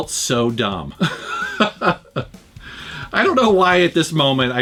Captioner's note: laughs